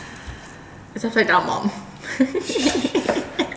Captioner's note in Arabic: يضحك بصوت خافت